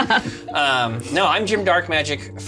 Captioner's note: laughs